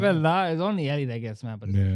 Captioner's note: speaking In Foreign Language